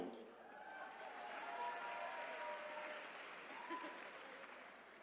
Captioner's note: attendees cheering